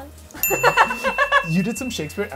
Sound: laughing

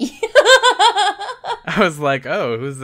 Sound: laughs

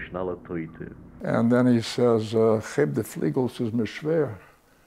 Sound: Yiddish

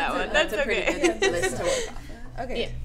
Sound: laughter

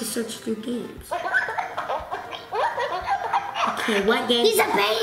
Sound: Hatchimal laughs

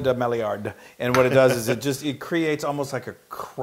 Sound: laugh

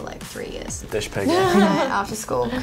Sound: laughs

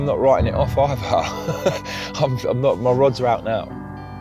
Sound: laughing

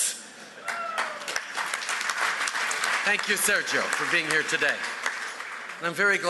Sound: applause

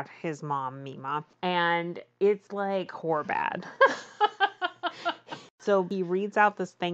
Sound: laughs

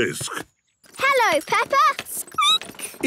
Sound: squeaking

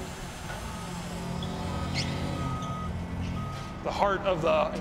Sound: screwdriver whining; forklift beeping

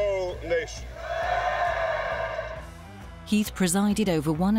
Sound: audience cheering

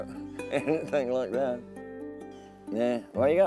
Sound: laughing

